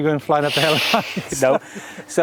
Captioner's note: laughs